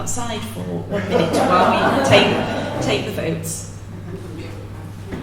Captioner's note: laughter